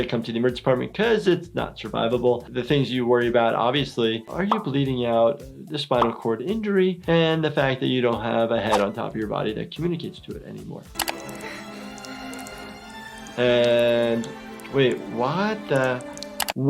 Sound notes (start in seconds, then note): 10.9 trickling